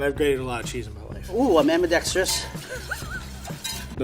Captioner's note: chuckles